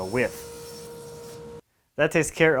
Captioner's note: saw humming